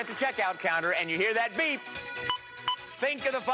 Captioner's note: beeping